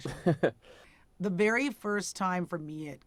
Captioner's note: interviewer laughs